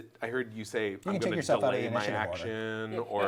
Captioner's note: all chattering